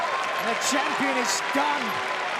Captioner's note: crowd cheering